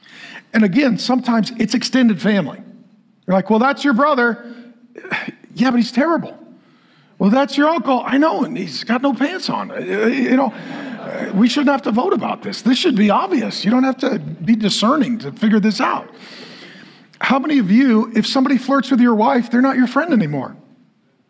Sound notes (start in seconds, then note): 9.4 congregation laughing